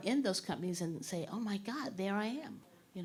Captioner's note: none